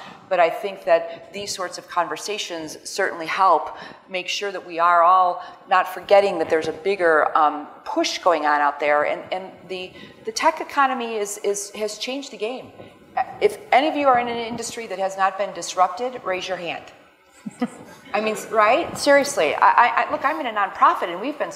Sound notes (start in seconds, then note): 17.4 crowd laughing